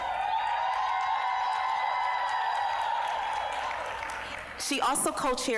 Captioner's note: applause, cheering